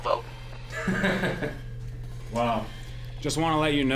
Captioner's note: laughing